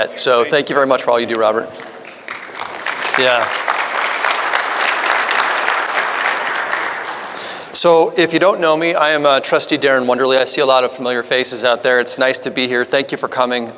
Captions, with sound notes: Thank you very much for all you do Robert. (audience applauding) If you don't know me, I am Trustee Daren Wonderle. I see a lot of familiar faces out there. It's nice to be here. Thank you for coming.